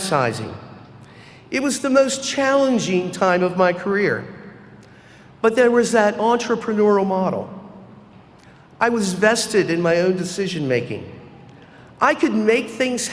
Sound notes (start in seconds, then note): none